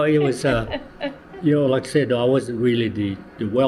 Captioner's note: laughs; laughter